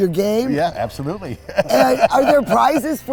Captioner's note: laughs